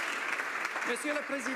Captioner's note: applause